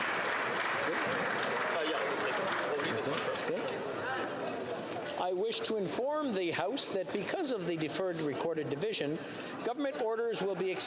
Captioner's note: applause